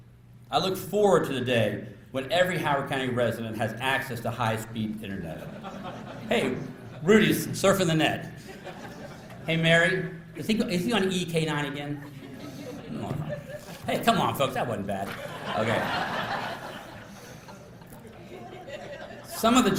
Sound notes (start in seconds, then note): 5.4 laughter; 8.4 laughter; 15.0 laughter